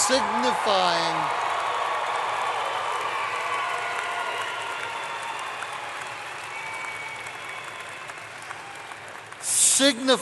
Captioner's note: applause